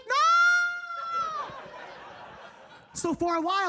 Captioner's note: audience laughing